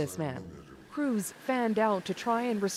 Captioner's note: speaking alternate language